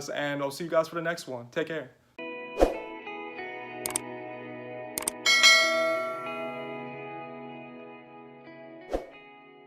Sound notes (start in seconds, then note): 2.2 gentle music; 5.2 bell dinging